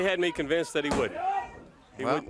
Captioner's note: crowd chatter